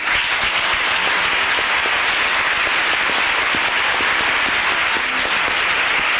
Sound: applause

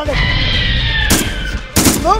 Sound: Hermes Screeching and Gun Shots

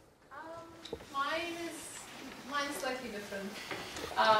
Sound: voiceover

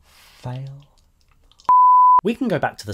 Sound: beep

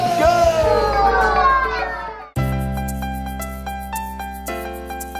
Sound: kids oohing and ahhing

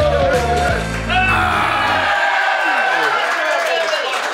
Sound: roars

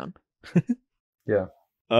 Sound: titters

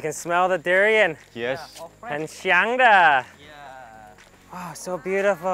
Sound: speaking in foreign language

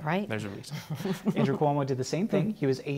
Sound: laughter

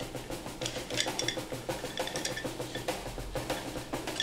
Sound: rattling

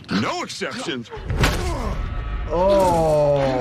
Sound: bat thuds

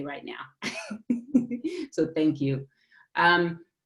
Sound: laughter

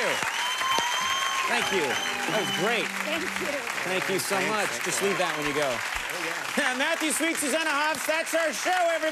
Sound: cheers and applause

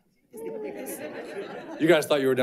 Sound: audience laughing

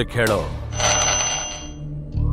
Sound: phone Disturbance

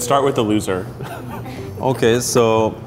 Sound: laughing

